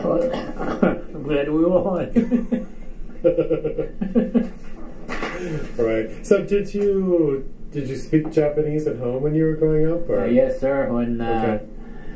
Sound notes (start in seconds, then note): 2.3 coughs; 3.1 chuckles